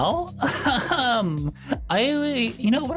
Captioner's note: laughs